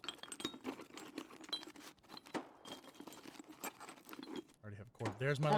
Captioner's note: rattling